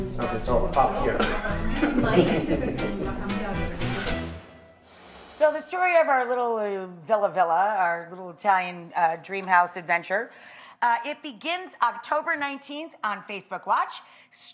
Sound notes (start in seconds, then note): 1.1 laughing; 4.6 air whooshing